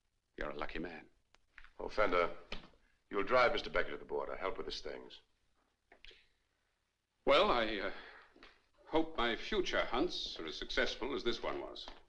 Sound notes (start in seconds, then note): none